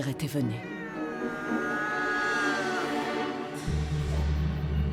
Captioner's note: cat meows; dramatic music